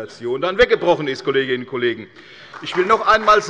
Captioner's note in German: Beifall bei der CDU und dem BÜNDNIS 90/DIE GRÜNEN